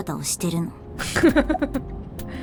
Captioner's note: chuckles